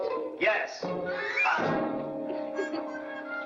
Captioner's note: gasps; laughs